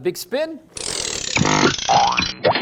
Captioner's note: CRANKING noise; silly factory noises